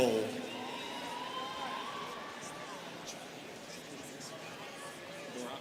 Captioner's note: students cheering